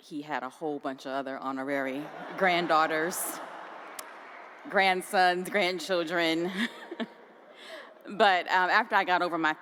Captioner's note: laughter